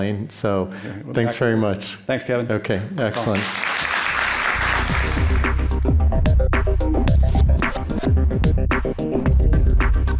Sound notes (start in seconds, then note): 3.2 audience applauding; 3.8 upbeat music